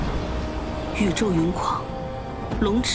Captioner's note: the storm and rain rage